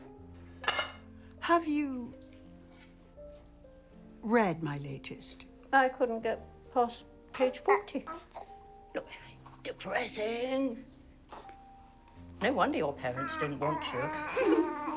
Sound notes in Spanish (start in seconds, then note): 8.1 arrullo del bebé; 13.9 risas